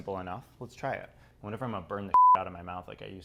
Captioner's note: beep